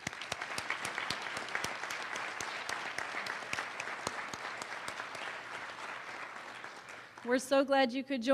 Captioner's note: applause